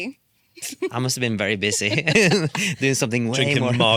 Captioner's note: laughs